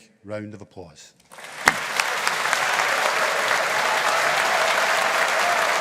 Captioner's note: audience applauding